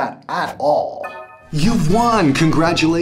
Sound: new email alert

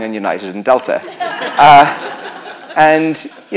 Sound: laughter

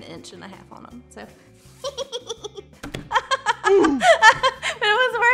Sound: giggling and laughing

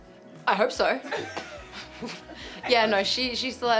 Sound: laughter

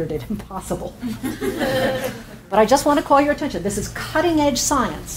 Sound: audience laughs

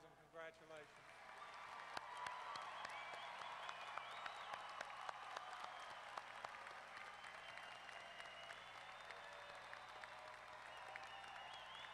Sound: applause

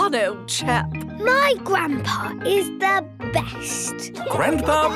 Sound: laughing

